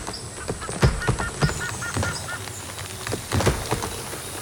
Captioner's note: crackling intensifies